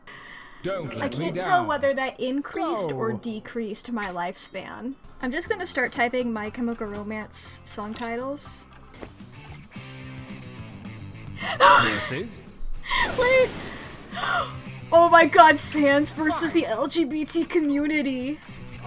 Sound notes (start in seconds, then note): 11.3 wheezes; 14.0 gasps